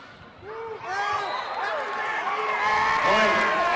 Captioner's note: whistle blowing and cheering